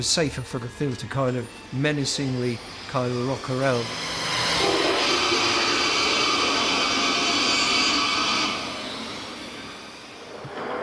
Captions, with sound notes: safer for the thing to kind-of menacingly kind-of rock around. [SPIDER HISSES]